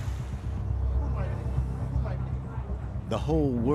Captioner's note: talking in background